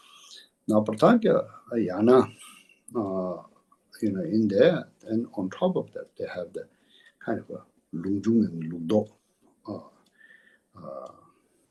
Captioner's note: tibetan